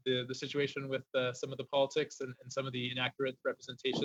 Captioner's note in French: voix de l'interprète